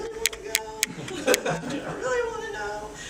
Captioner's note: audience laughing